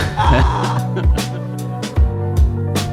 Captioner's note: laughter